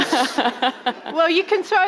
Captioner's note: laughing